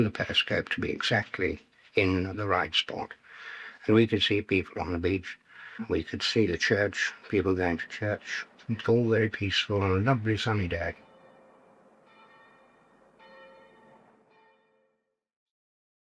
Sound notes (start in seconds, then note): 13.5 church bells ringing